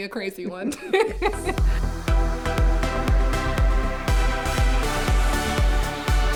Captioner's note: both chuckling; upbeat music